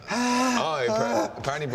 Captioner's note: gasps